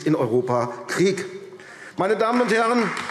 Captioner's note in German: Beifall AfD